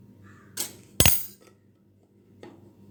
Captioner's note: cLaNg